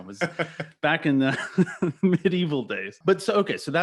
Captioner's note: laughing; laughs